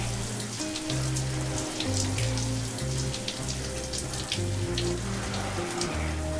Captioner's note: water splashing continues